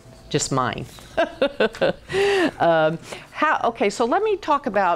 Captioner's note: laughing